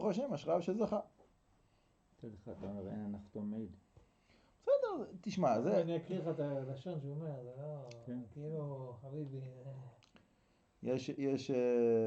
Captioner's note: background noise, questions